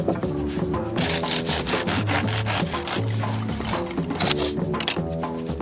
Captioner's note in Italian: Rumore di pane che viene tagliato